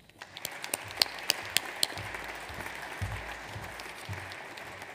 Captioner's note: audience applauds